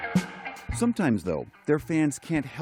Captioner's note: voice-over